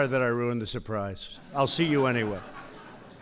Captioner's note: laughter